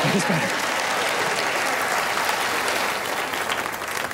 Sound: applause

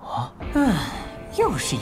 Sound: sigh

